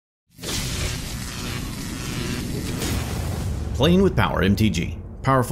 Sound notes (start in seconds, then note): 0.3 electricity buzzing